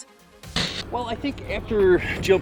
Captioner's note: static